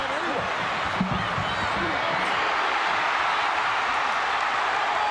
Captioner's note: audience cheering